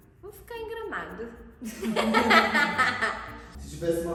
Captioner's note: laughing